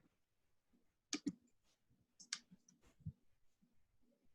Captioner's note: mouse clicks